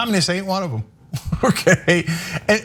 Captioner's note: laugh